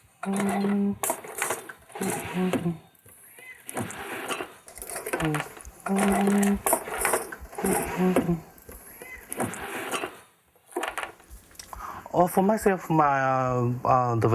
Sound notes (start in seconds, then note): 0.1 humming; 3.1 meow